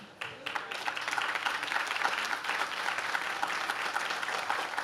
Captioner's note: audience claps